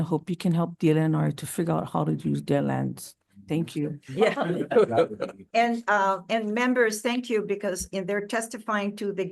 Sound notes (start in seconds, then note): 4.1 attendees laughing